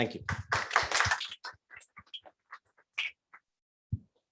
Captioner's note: applause